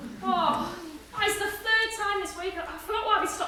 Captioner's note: HAZEL groans